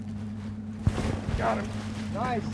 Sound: fish splashing

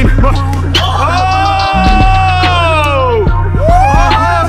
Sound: cheering

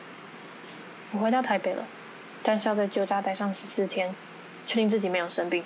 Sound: speaking Taiwanese

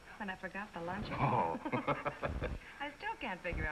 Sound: both laughing

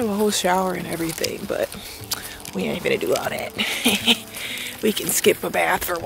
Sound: chuckles

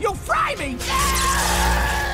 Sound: screaming

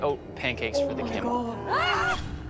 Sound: screams

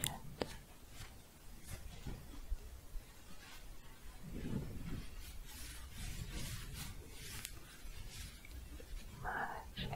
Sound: shuffling

